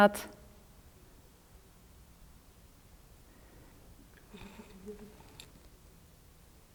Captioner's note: silence in the background